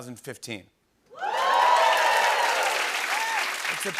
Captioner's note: cheering and applause